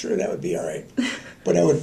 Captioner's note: laughter